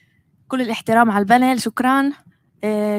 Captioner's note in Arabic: لغة أجنبية